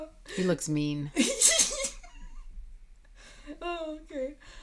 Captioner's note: laughing